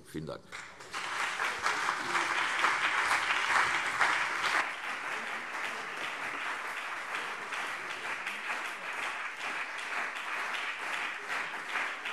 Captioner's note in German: Anhaltender Beifall CDU und BÜNDNIS 90/DIE GRÜNEN